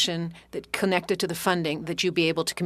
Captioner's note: speaking French